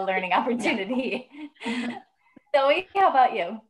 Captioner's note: laughing